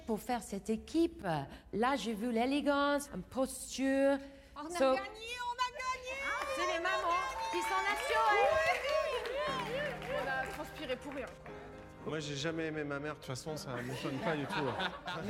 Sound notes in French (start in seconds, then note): 8.0 applaudissements; 8.0 cris de joie